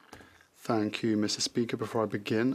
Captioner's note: speaking French